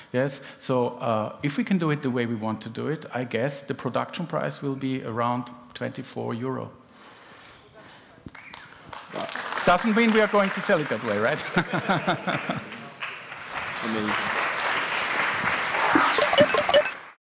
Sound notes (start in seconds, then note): 7.2 applause; 11.4 laughter; 11.9 applause; 14.5 applause